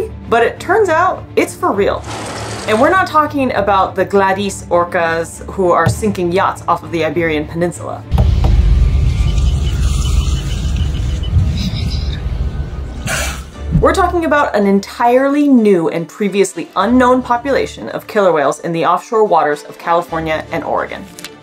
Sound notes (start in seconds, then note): 9.0 background boat noise incl. beeping; 12.4 background music; 13.1 orca spouting noise